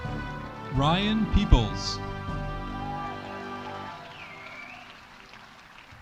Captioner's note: audience applauding